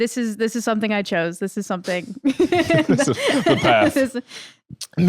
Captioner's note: laughs